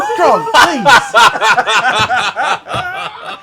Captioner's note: laughter